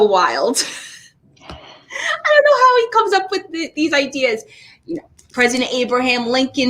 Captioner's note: laughs